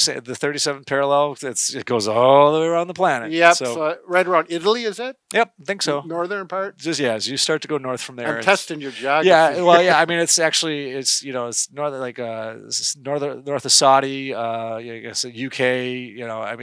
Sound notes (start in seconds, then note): 8.2 laughs